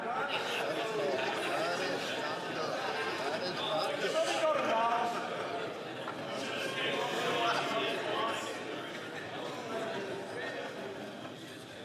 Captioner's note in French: voix de l'interprète